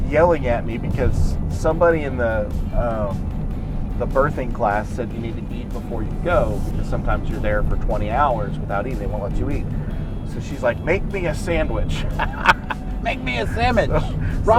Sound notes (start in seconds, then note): 11.3 laughing